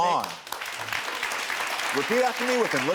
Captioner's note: audience applauds